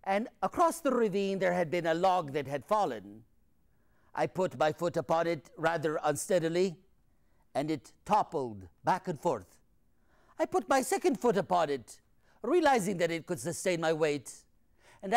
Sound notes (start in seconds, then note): none